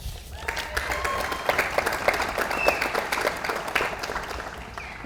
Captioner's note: audience applauds